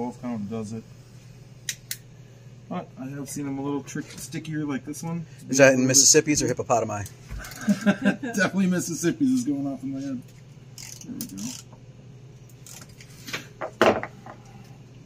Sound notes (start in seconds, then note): 7.4 laughs